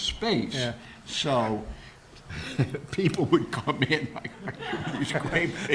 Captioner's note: laughing